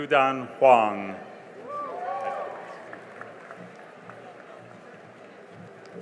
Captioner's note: cheering and applause